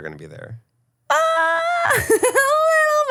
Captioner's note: laughing